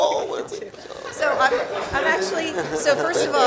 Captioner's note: audience laughing